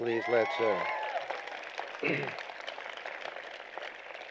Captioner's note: cheering